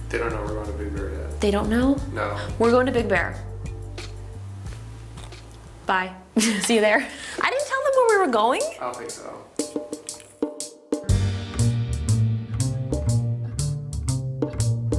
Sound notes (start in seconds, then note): 6.4 laughs; 11.2 gentle instrumental music